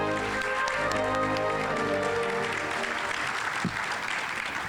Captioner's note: audience applauding